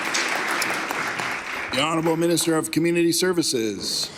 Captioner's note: applause